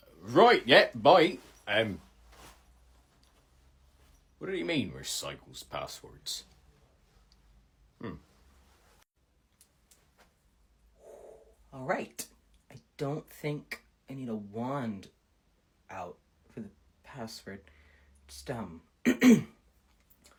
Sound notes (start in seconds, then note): 7.9 hums; 19.0 clears throat